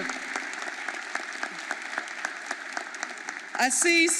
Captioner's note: audience applauding